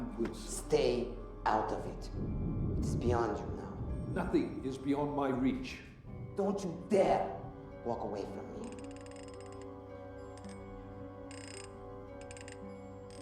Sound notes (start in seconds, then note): 8.6 safe dial clicking; 10.5 tense music